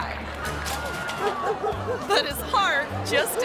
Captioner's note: object clatters; dog barking